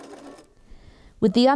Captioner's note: machine whirrs